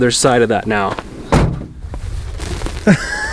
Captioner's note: car door thuds; laughs; dirt rustling